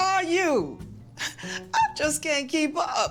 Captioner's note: chuckling